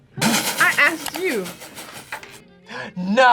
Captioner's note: laughs